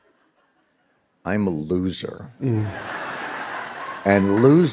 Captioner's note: audience laughing